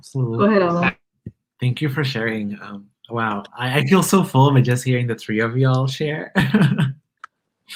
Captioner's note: laughs